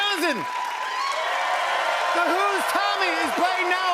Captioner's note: cheers and applause